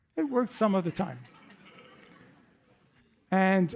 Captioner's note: laughter